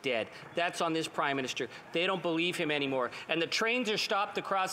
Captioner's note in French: voix de l'interprète